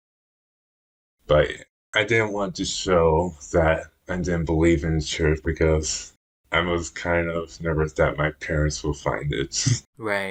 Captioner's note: laughs